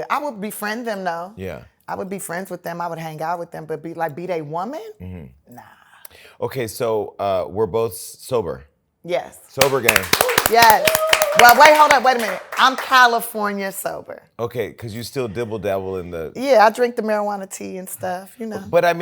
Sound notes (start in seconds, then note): 9.8 cheers, applause